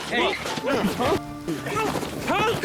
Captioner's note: scuffling